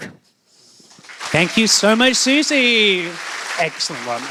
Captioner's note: applause